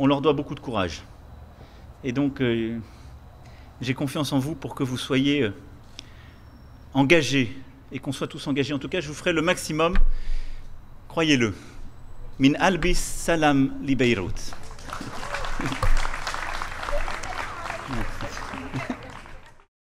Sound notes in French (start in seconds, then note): 14.4 Applaudissements